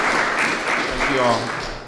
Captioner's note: clapping